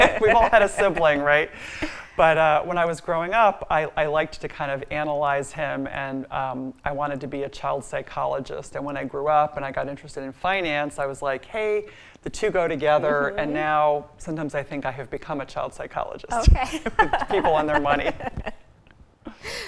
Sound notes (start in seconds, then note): 16.6 laughs